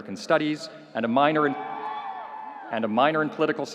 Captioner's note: audience cheering